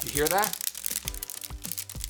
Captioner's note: crackling